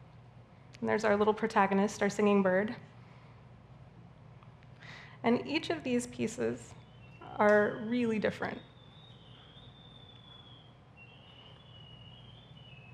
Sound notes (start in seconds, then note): 9.2 bird singing